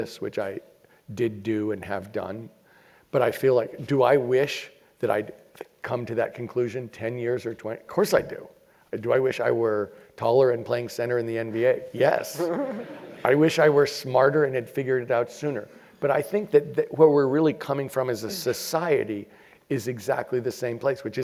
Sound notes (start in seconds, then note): 12.2 laugh